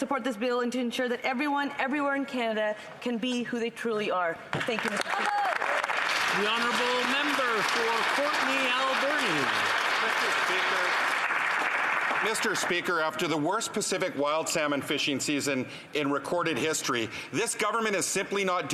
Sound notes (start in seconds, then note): 9.5 some Applause